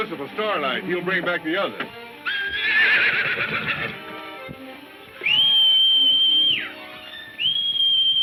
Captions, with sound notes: He'll bring bring back the others. (horse whinnying) (Kentucky whistling)